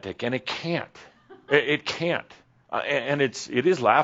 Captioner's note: someone chuckles